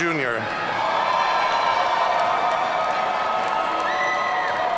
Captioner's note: audience cheering